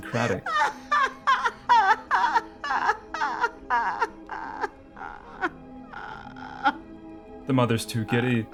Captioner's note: laughs